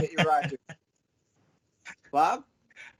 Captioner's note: chuckles